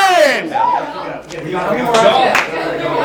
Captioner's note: cheers quickly die again